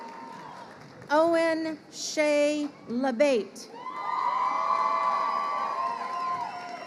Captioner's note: crowd cheering